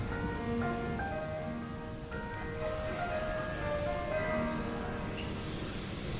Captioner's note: school bell